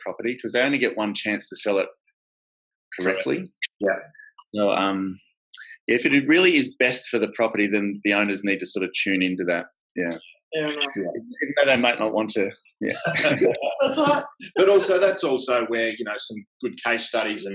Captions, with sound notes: 'cause they only get one chance to sell it correctly. If it really is best for the property, then the owners need to sort of tune in to that, yeah. Even though they might not want to, yeah. (laughs) - That's all right. - But also, that's also where you have some good case studies